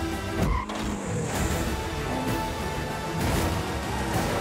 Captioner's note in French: crissement de pneus